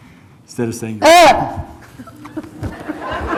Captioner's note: laughs; barks; audience laughs